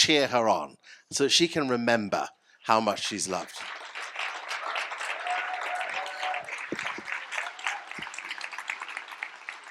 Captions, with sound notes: cheer her on so she can remember how much she's loved? [CHEERS AND APPLAUSE]